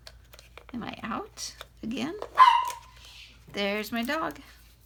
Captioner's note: bark